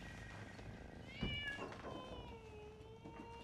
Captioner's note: cat meows